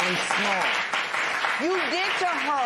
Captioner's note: applause